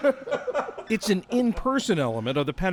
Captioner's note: laughter